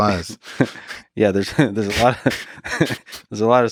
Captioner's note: both laughing